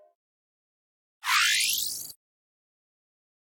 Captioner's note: high-pitched electronic sound